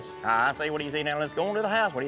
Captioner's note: auction voice